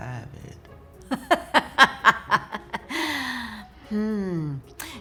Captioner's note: loudly laughs